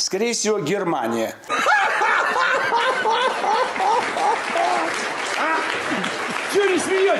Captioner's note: laughter